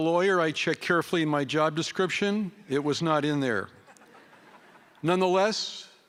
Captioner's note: laughter